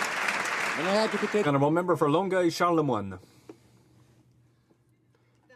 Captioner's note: some Applause